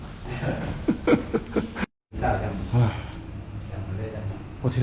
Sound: everyone laughs together

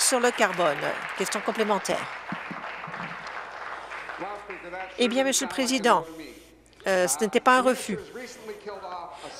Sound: applause

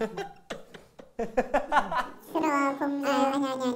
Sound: laughing

